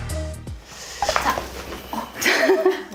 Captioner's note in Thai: กร๊อบ